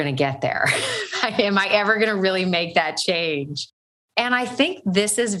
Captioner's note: laughs